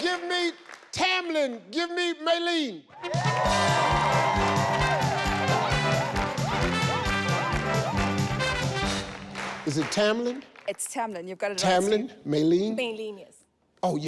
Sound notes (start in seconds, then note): 3.2 orchestral music; 3.4 audience cheers